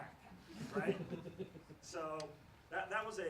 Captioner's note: laughs